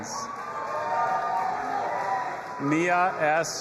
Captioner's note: audience applauding and cheering